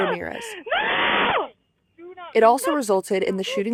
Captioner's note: screaming